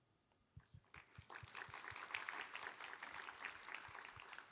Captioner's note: applause